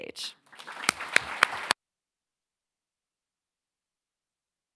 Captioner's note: audience applauding